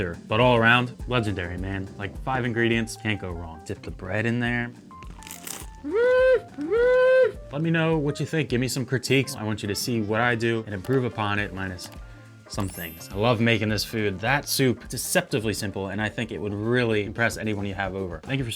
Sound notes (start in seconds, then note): 5.0 bread crunches; 12.6 bells chime